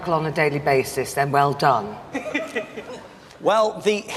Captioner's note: audience laughing